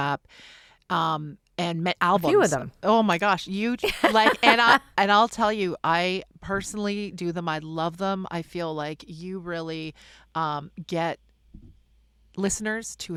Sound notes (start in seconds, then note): 3.8 laughs